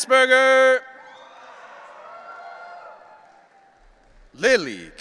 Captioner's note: audience cheering